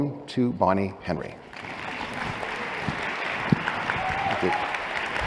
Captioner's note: cheers, applause